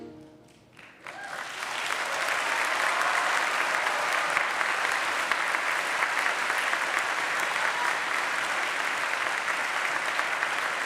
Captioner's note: applause